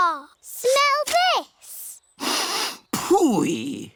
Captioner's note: sniffs